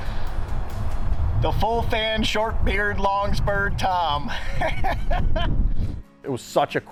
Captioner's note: laughing